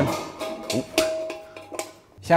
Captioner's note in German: Metallklappern